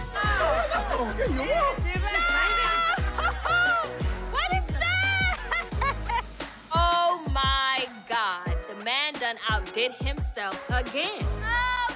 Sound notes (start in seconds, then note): 2.4 screaming, laughing; 6.0 laughing